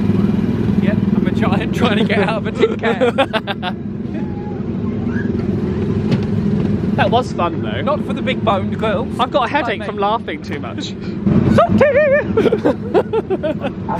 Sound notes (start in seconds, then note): 3.2 laughs; 11.4 both laugh